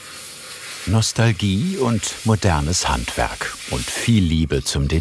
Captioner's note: hiss